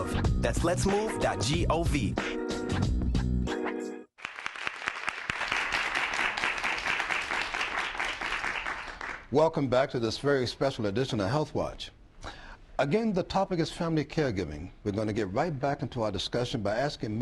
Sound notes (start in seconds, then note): 1.4 applause